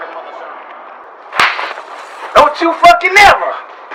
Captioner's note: slaps